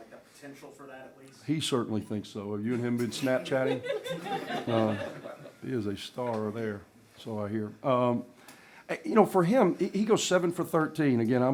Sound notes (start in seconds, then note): 4.4 laughter